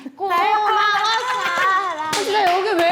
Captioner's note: frustrated